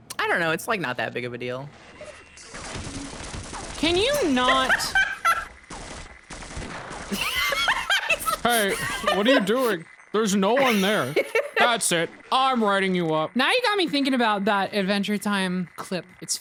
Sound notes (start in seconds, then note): 2.4 turret firing; 4.0 laughs; 7.1 laughs